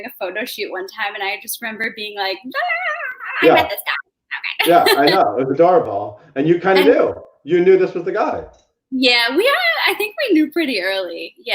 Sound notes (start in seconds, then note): 2.7 giggling